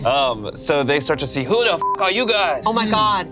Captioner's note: beep